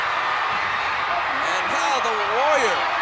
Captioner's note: applause